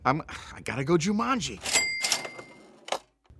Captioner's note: cha-ching